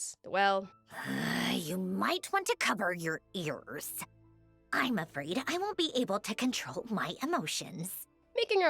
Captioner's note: groans